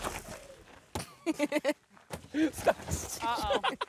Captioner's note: laughing